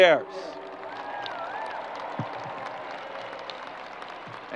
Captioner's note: crowd applause